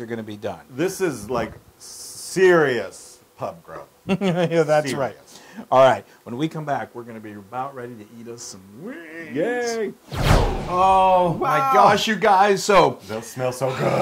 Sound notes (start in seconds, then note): 4.5 laugh